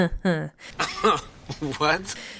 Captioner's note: laughs